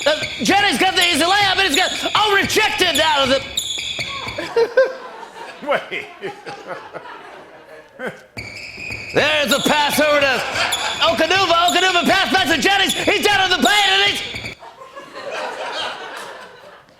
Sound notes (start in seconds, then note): 4.3 squeaking stops; 8.2 sneakers squeaking; 14.3 squeaking stops; 16.8 sneakers squeaking